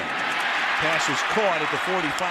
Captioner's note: cheering